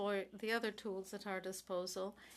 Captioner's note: speaking French